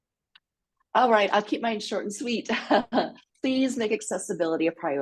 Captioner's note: laughs